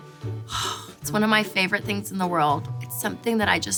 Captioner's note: sighs